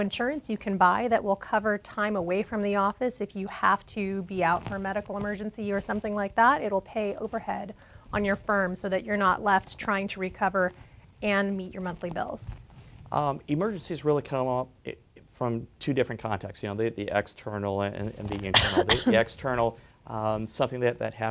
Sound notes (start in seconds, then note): 18.5 coughs